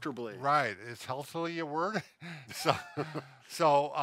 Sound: general laughter

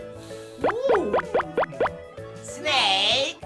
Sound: boink - Boink - Boink

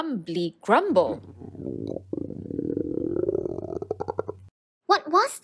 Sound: tummy rumbling

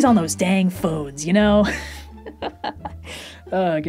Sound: laughs

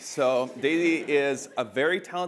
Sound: audience chuckling

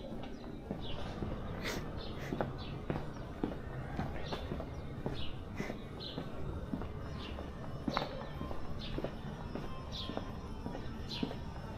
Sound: people chattering

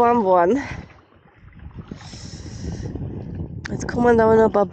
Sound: wind & background noise

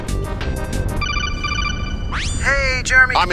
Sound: codec call SFX

